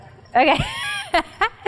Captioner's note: laugh